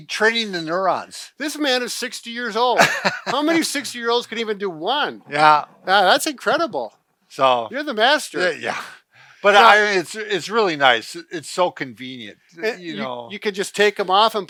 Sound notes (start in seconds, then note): 2.6 laughing; 8.4 laughing